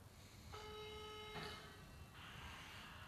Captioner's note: phone tone